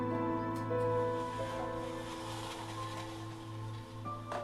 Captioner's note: blinds rustling